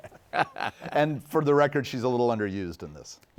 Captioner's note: laughing